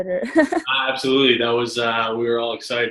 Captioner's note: laughs